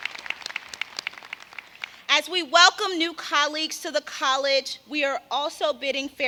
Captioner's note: applause